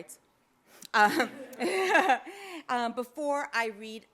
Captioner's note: audience laughs